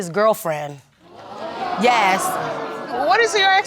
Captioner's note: audience gasps